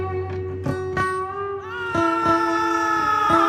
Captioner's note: screams